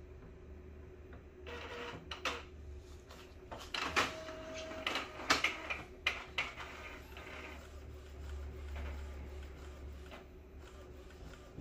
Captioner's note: printer machine sound